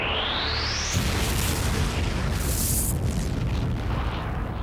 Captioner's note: explosion